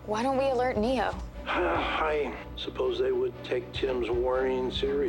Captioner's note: grunts